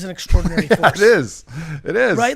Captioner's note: laughs